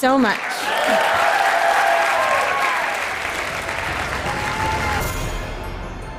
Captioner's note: applause